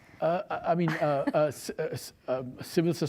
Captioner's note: stutters